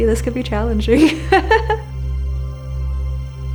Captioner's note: laughs